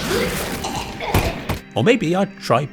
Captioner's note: chokes